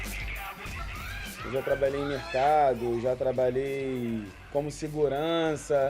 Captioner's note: in Portuguese